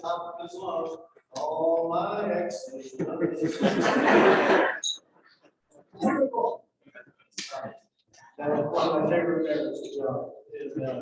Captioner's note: laughter